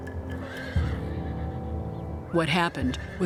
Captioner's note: horse neighs